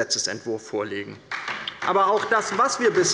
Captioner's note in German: Beifall bei der LINKEN